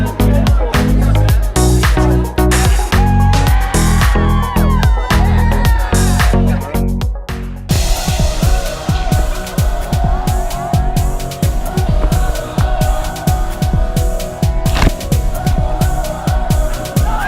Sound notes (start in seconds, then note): 2.8 crowd cheering; 17.0 crowd cheering